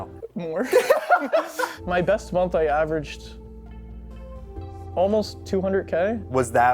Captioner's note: laughs